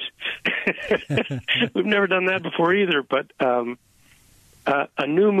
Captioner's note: laughter